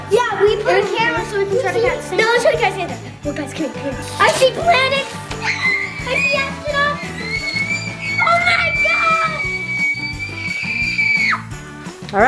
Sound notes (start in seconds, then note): 5.4 screaming; 9.7 screaming